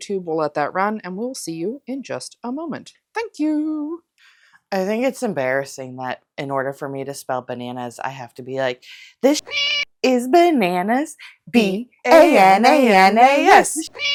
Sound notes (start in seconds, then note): 9.4 meow; 12.1 meow